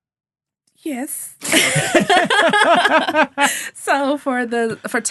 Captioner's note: all laughing